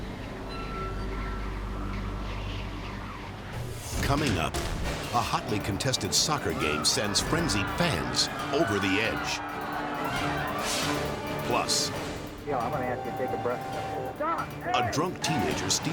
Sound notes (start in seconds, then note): 0.1 edgy dramatic music; 0.1 wind rustling; 9.3 people yelling; 10.8 dramatic whoosh